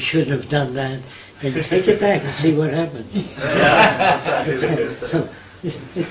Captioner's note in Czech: smích